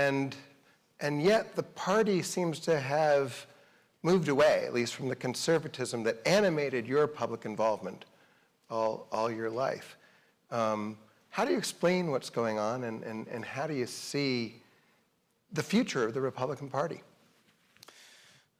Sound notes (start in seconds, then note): none